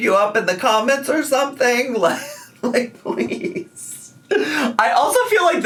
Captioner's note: laughs